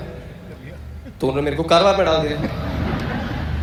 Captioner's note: audience Laughter